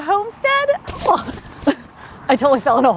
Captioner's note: grass rustling